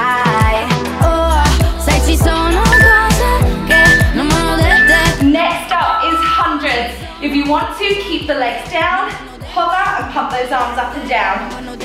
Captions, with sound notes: (workout timer beeping) Next up is hundreds. If you want to, keep the legs down, hover, and pump those arms up and down.